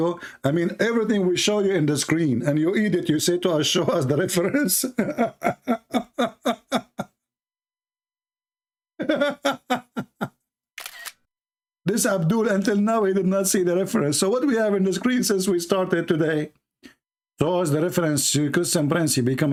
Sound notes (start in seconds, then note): 9.0 Ketawa